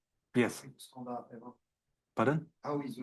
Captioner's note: student speaking faintly